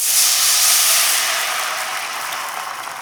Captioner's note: sizzling